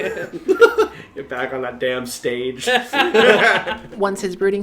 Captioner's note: laughter